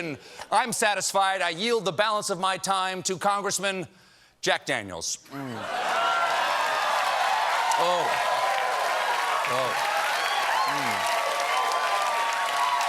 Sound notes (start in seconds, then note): 5.6 cheers and applause